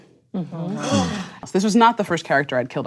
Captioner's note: gasping